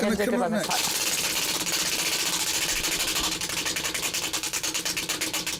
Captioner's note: wheel spinning